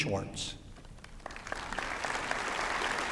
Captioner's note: applause